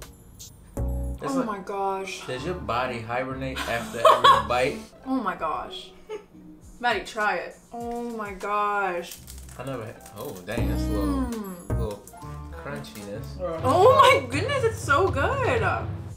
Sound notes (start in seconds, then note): 3.6 laughs; 9.1 crunching; 10.6 moans; 11.4 tender music